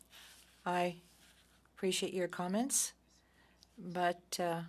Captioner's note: speaking French